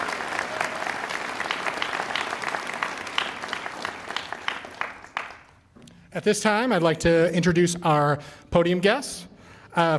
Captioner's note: applause